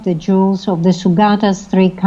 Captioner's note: speaking foreign language